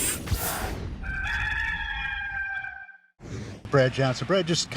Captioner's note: cock crowing